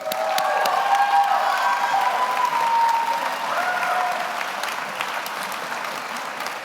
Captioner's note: audience applauds; audience cheers